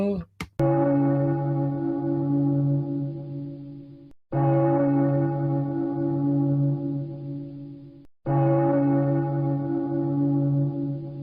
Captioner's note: bell tolling